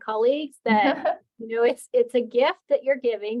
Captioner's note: laughing